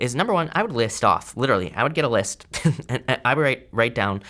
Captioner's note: laughs